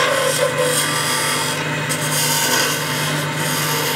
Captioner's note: machine noise